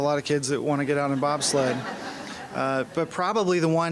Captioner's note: laughing